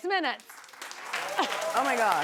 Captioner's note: clapping